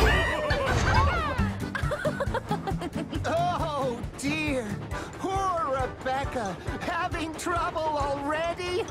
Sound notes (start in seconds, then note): 1.6 Rebecca Laughs; 8.7 James Laughs